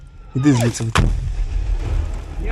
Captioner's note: explosion sound